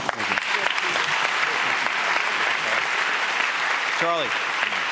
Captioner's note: audience applauds